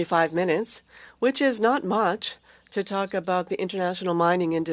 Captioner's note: speaking French